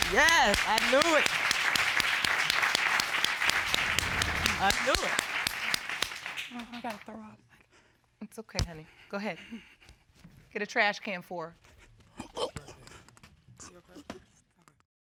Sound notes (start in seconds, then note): 1.7 applause; 12.2 vomits